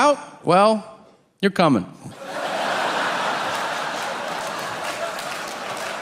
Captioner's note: audience laughing